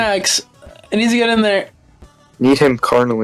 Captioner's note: sobbing